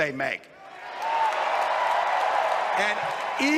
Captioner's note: crowd cheering